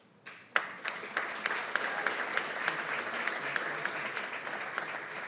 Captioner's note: applause